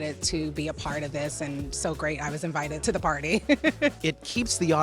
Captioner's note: laughing